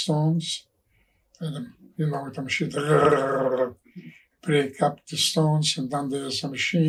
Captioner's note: trilling noise